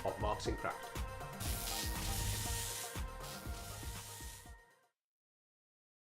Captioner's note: electricity buzzing